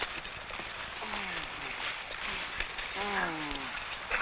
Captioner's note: man groans